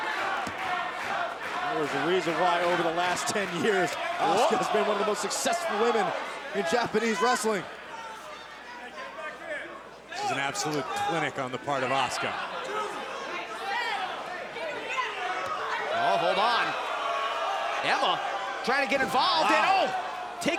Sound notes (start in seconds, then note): 0.1 crowd chatter; 3.8 crowd chatter; 5.5 crowd cheering